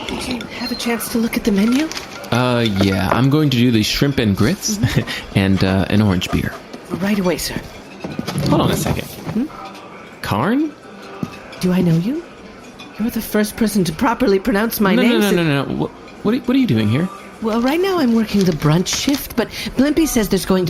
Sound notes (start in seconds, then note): 6.3 scribbling